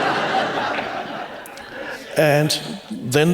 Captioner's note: laughter